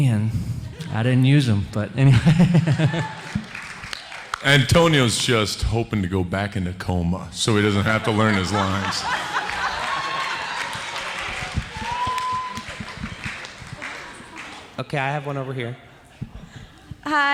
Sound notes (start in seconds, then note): 2.5 audience applauds; 7.5 audience applauds; 9.0 audience laughing